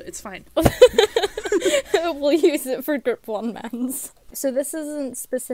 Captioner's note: hosts laugh